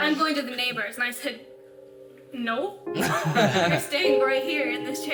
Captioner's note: all laughing